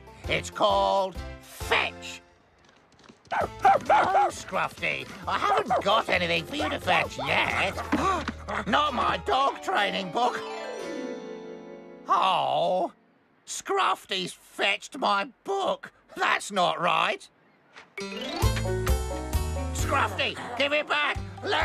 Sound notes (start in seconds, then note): 3.3 excited Barking; 8.0 gasp